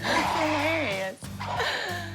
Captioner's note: laughs